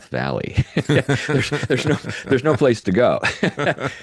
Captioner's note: laughs